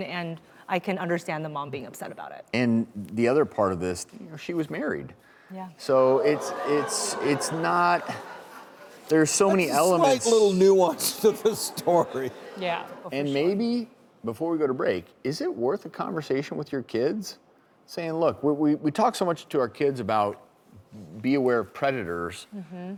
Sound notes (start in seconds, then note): 12.0 laughs; 12.4 crowd chattering